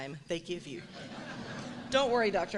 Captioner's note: laughs